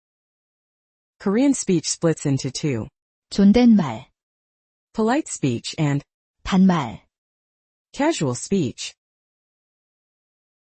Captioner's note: casual speech